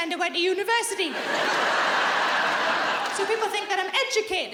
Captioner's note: audience laughing